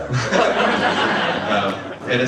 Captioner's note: audience laughing